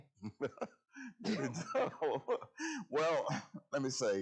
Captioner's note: laughing